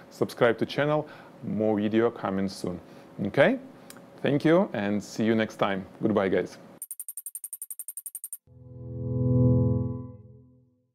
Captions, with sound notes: Subscribe to channel. More video coming soon. Okay, thank you and see you next time. Goodbye, guys. (rapid clicking) (ambient jingle)